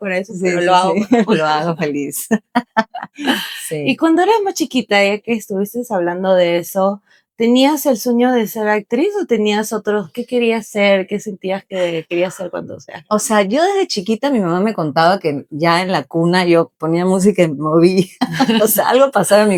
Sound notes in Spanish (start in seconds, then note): 0.0 risas